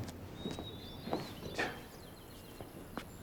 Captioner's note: scoffs